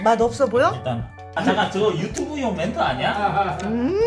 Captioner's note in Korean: 웃음